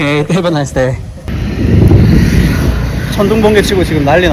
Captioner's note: thunder sound